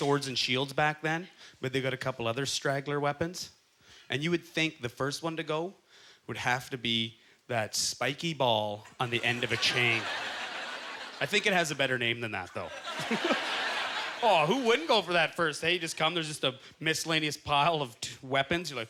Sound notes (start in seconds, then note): 12.6 laughs